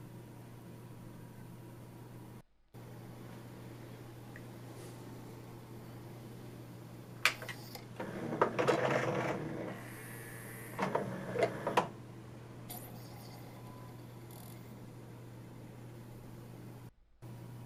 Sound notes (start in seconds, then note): 7.9 disc stops, a sort of creaky sound is heard as the disc is released; 9.7 whir as carousel moves